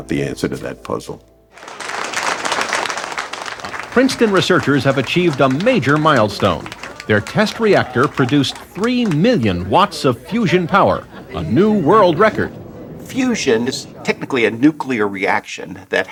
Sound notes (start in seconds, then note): 1.2 applause